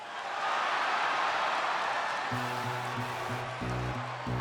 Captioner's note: crowd cheering